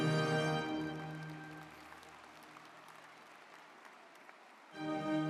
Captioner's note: ceremonious music; audience applauding; ceremonious music